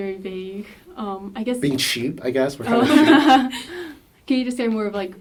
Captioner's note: laugh